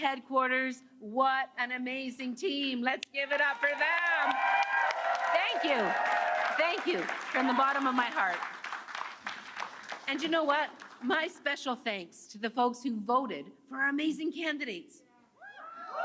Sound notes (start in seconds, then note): 1.9 applause; 10.0 cheers and Applause